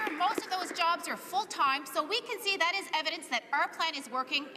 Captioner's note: some Applause